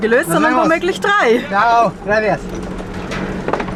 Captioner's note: in Spanish